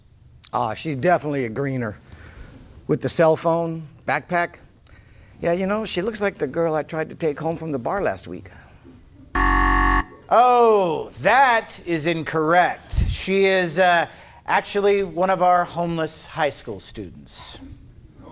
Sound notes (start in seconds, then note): 9.3 alarm beeps